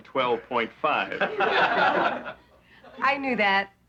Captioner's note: laughing